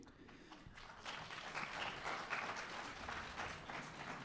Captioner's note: audience applause